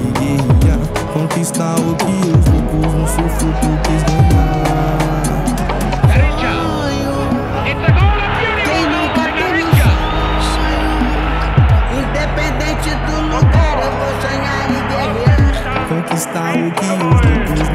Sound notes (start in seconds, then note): 2.8 cheering; 11.8 crowd cheering